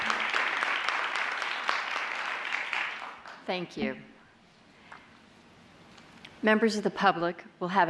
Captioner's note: applause